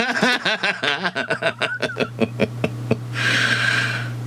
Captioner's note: man laughing